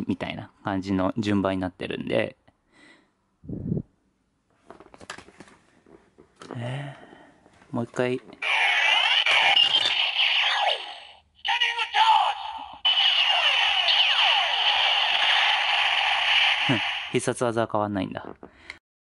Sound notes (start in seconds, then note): 6.5 sigh